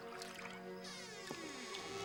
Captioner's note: water lapping; door creaking